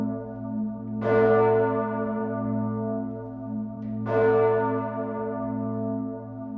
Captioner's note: bell tolling